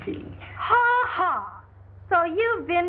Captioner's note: scoffing